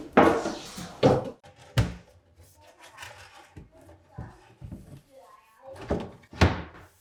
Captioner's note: none